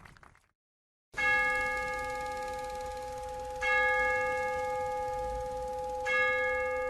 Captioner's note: crowd applauding; bell ringing; film ticking